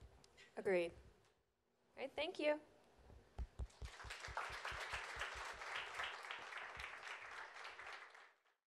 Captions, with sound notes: - Agreed. Thank you. (audience applause)